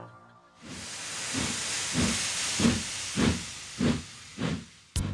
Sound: wheesh!

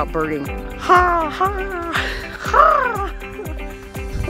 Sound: bird calls

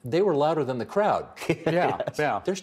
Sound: laughing

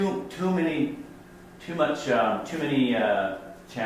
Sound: voiceover

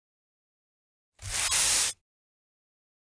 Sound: sound of broom sweep

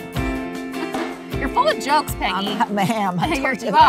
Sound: chuckles

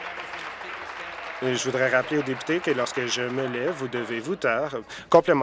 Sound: voice trails

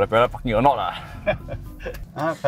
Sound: laughs

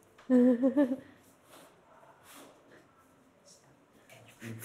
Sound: chuckles

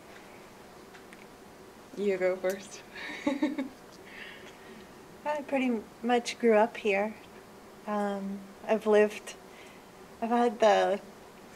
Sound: laughs

